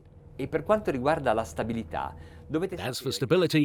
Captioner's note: speaking in a foreign language